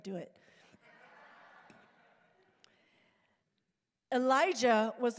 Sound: congregation laughing

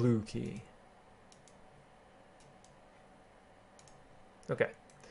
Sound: keyboarding

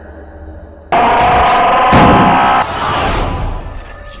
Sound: Screech

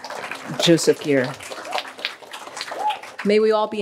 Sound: applause

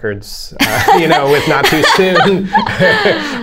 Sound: laughter

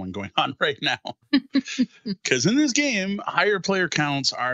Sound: laughing

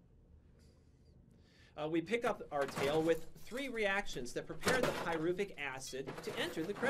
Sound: rummaging noises

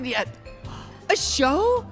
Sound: gasps

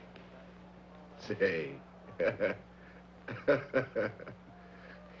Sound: Roy laughing

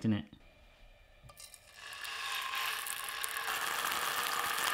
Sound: beef sizzles

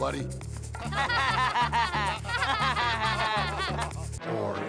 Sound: laughter

